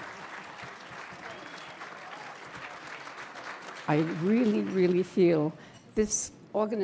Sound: applause

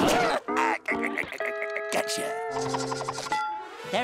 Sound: chuckling

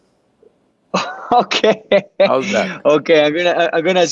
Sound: laughs

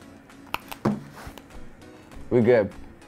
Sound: crunching

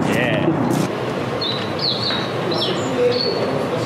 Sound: birds chirping

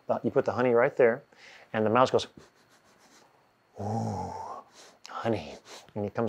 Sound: sniffing

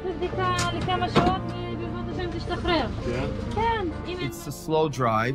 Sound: medics speak foreign language

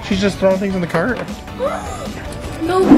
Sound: gasping

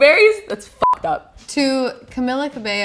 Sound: beep

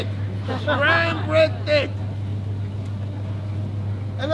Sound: people laugh

